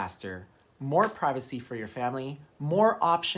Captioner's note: hand slapping; finger snapping